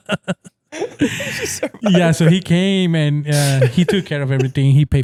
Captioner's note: laughing